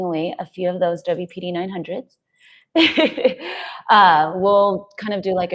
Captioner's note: laughs